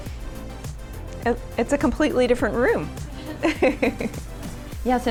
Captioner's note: laughs